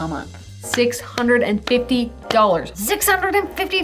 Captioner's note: clapping hands